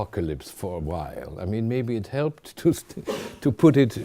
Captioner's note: chuckling